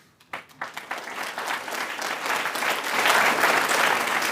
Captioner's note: applause